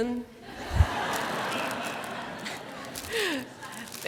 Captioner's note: laughter